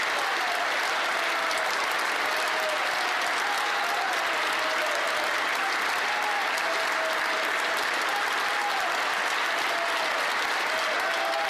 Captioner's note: applause